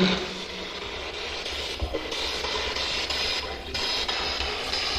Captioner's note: static buzzing